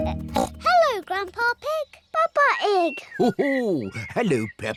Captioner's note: oinks